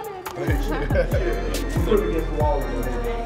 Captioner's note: student laughing